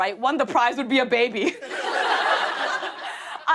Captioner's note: laughter